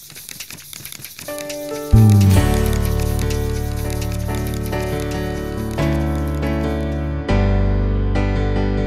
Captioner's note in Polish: Szelest kartek